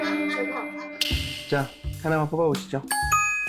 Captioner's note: sound effect: Back